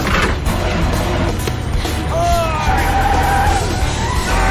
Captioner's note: tires screeching